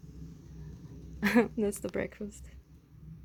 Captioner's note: laughs